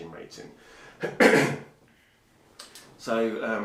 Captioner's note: coughing